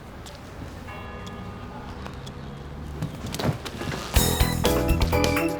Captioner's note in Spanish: Campanadas